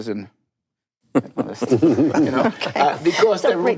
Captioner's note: panelists laugh